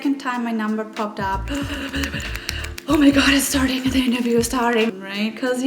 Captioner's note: panic noise